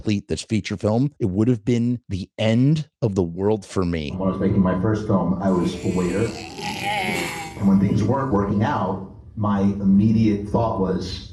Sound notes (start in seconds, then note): 5.6 retching sounds